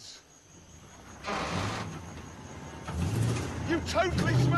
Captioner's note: metal creaking